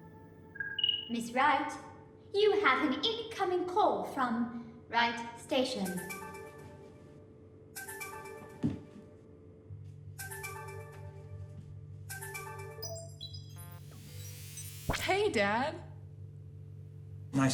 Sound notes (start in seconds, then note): 0.6 subtle chime; 7.7 cheerful ringtone; 10.1 ringtone continues; 12.8 confirmation beep; 13.5 electrical whirring